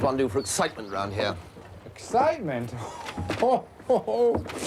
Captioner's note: laughing